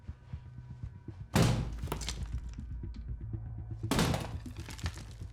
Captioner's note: very loud banging